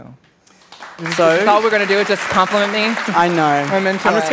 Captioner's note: applause